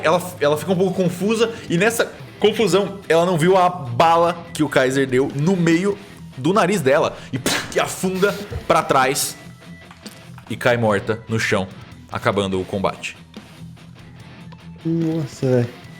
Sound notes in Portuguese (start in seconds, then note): 7.3 Pow